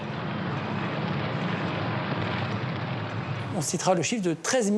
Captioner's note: guns firing